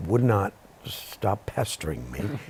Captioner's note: chuckles